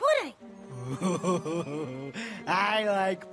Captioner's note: laughs